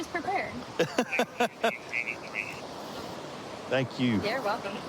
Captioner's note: laughing